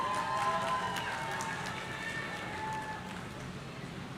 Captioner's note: audience cheering